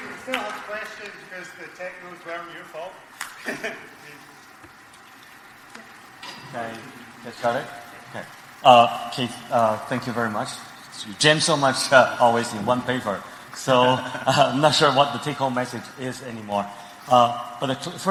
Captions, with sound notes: - If you still have questions, to use the technical term, your fault. (laughs) - Keith, thank you very much, generally so much all in one flavor, so not sure what the take home message is anymore.